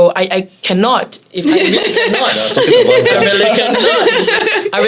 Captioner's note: laughs